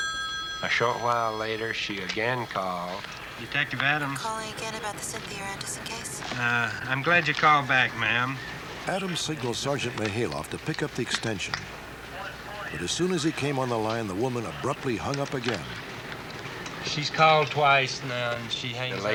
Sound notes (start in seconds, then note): 4.6 on phone